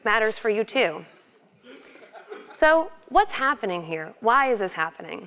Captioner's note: laugh